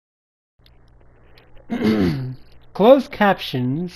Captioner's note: clears throat